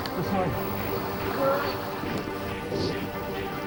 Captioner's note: water splashing; intense music